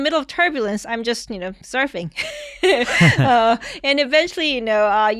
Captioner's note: chuckles